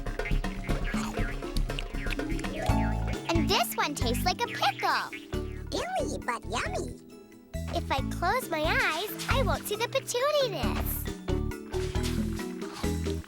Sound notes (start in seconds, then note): 0.8 chomping